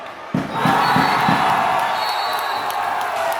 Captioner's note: shouting